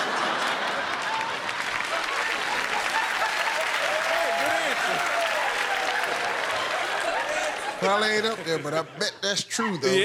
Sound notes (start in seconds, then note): 0.3 laughter; 2.4 cheers and applause